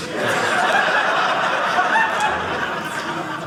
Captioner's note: audience laughing